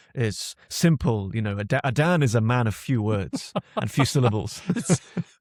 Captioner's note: laughs